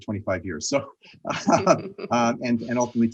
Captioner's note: both laughing